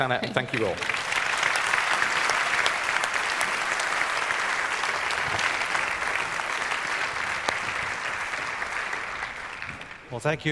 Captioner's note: applause